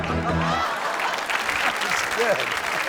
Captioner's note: audience applauds